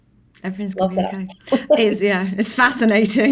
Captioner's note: laughs